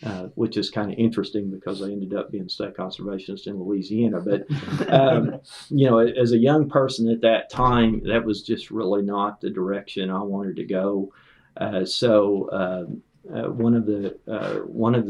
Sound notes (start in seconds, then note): 4.2 laughter